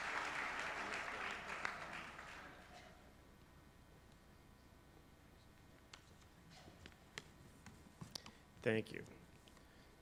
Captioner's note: applause